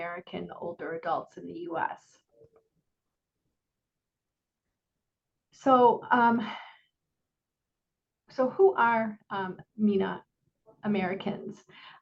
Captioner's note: silence